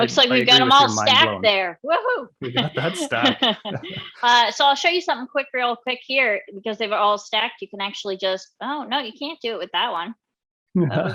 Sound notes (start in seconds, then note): 2.4 laughing; 10.8 laughing